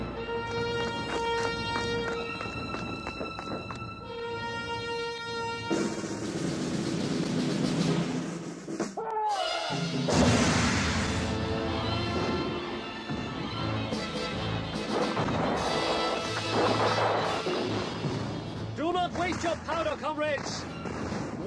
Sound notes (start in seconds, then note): 5.7 drumroll; 10.1 guns blast